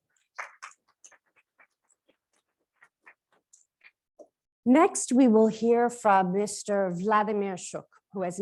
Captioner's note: applause